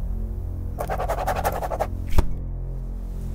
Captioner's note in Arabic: خدش القلم